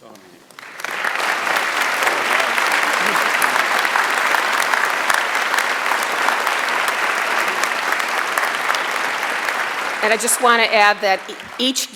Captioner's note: applause